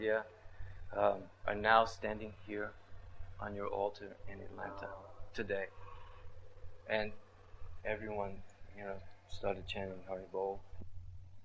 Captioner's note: laughs